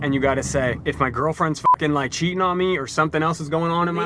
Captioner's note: beep